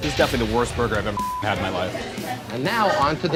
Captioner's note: beep